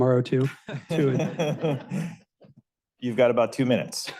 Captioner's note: laughs